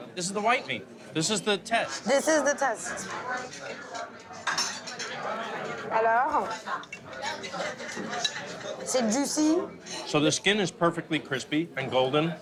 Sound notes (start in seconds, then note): none